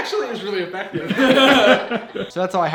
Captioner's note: laughs